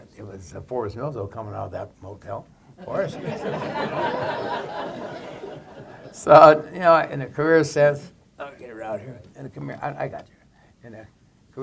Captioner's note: laughter